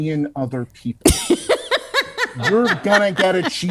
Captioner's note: laughs